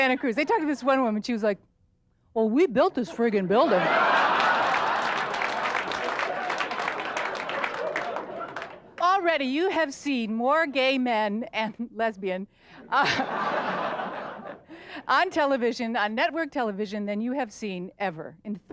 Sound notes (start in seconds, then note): 4.7 audience laughter and clapping; 12.8 audience laughter